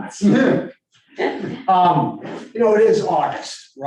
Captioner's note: group laughing